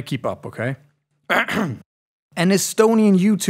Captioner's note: clears throat